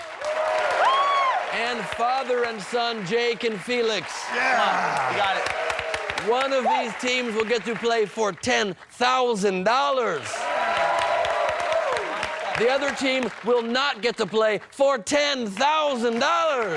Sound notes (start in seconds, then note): 1.3 cheers and applause; 12.2 cheers and applause